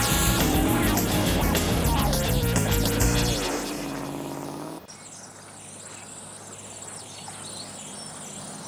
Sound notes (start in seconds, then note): 5.1 birds chirping